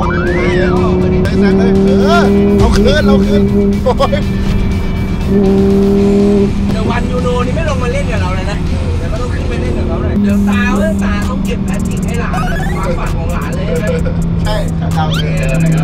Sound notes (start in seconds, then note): 3.6 laughs; 4.4 engine rumbling; 14.9 engine rumbling